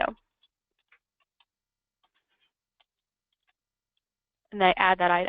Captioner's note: computer keyboard keys tapping